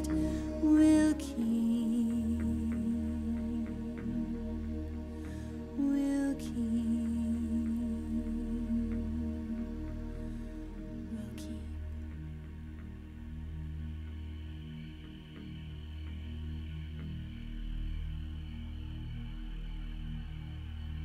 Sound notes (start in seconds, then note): 10.9 whispers; 14.2 insects chirping